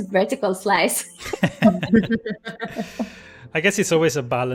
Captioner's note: laughter